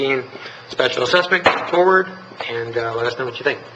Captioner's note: gavel striking